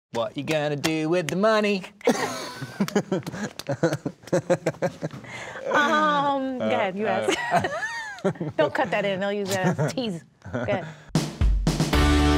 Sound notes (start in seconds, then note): 2.0 laughing; 11.1 upbeat music